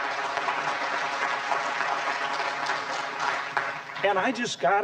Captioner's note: applause